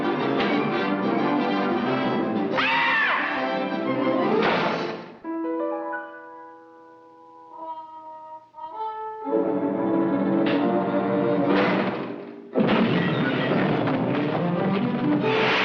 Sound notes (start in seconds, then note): 0.0 dramatic music continues; 2.5 Bugs Bunny screams; 4.4 door slams; 5.0 gentle music; 9.5 suspenseful music; 12.5 furniture clattering; 12.5 dramatic music; 12.6 door slams